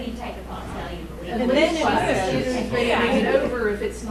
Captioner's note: chattering